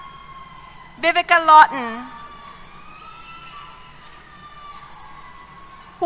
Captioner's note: cheers